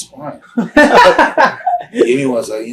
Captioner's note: interviewer laughs